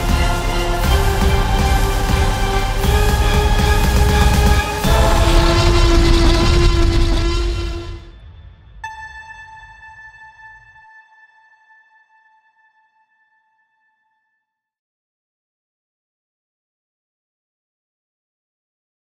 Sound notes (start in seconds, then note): 4.9 dinosaur roaring